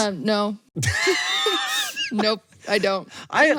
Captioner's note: both laugh